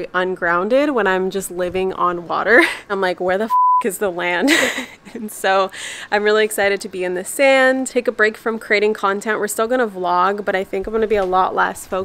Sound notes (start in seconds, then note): 3.4 beep